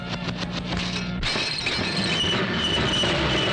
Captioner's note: gun firing; glass breaking; brakes squealing